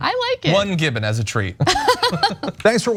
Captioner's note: laugh